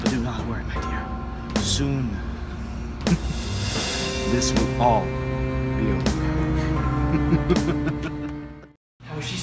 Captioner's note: laughs